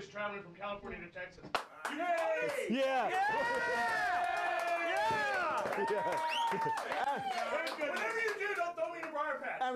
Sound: audience cheering

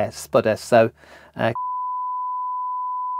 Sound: beep

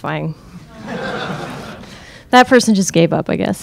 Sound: crowd laughing

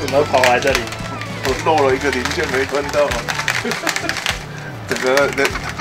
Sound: bitter laugh…

